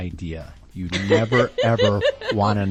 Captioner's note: laughs